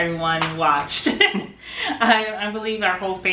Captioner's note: chuckles